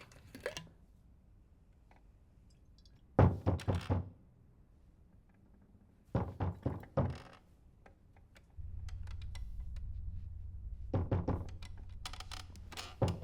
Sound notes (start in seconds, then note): 2.9 knocking on door